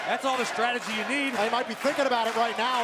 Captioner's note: crowd chatter